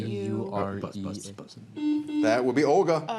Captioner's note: buzzer rings